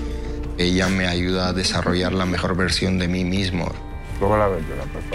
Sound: continuing to speak Spanish

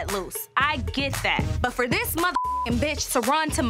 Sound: beep

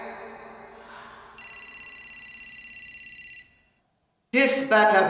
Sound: phone ringing

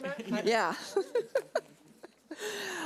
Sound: laughing

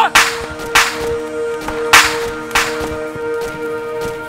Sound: bullets whiz

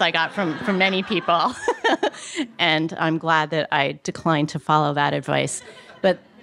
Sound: laughs

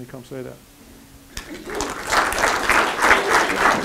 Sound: applause

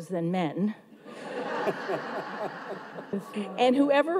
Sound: audience laughs

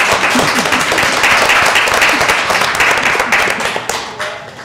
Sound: applause

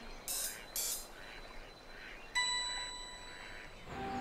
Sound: bright music; ducks quacking

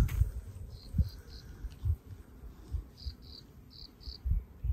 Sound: crickets chirping

